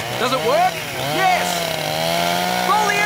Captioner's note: chainsaw grows louder